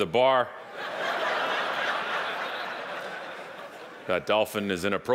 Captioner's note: audience laughing